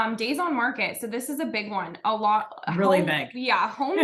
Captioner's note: laughs